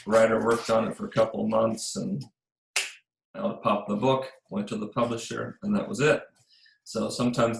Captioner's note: pop